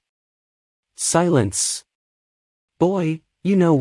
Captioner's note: silence